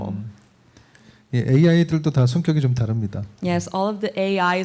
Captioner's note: speaking korean